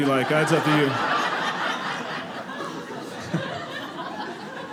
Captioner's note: audience laughing